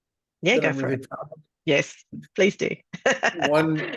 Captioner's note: laughs